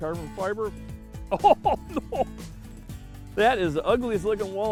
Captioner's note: laughter